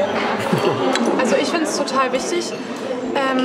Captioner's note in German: Kichern